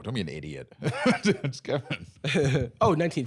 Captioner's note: laughs